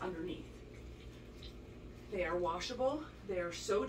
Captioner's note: water sloshing